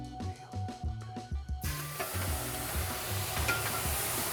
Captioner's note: pan sizzling